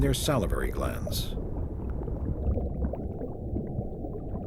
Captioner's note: water bubbling